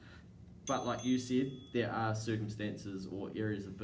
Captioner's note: alarm dinging